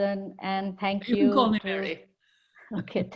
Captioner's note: laughs